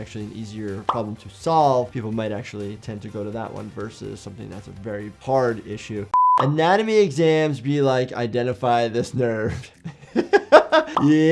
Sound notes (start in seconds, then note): 6.1 screen beeps; 9.1 chuckles